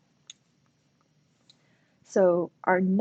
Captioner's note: silence